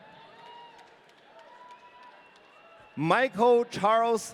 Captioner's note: audience cheering